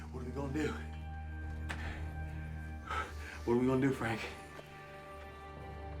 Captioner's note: panting